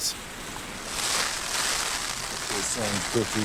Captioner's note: rain crackling